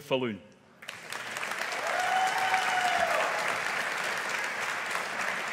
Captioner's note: audience applauding